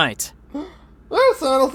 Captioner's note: gasps